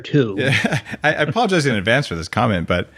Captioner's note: laughs